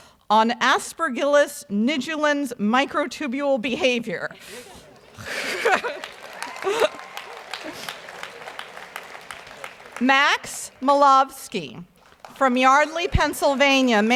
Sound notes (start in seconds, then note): 4.4 announcer chuckles; 4.4 audience applauds